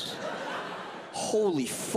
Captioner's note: audience laughs